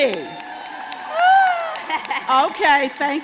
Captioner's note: crowd cheers